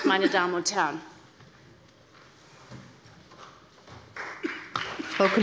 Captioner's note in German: Beifall bei Abgeordneten der SPD